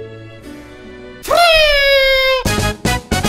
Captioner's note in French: bruit de sifflet de fête